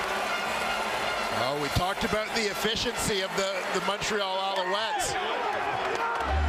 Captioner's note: crowd Noise